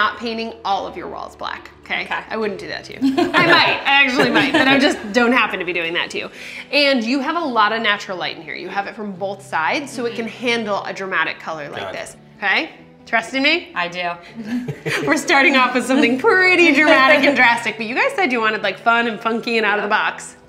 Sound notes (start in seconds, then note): 4.0 laughter